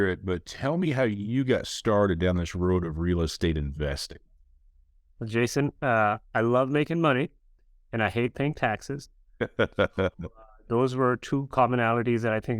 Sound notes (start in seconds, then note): 9.4 laughs